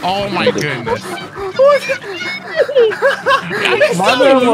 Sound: laughing

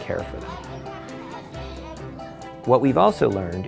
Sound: students chatter excitedly

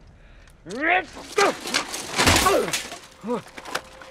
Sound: shouts, grunts

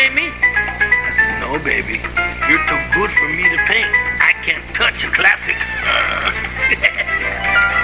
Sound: chuckles

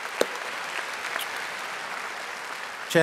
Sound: audience applauding

